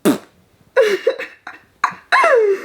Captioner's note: blowing raspberry; laughing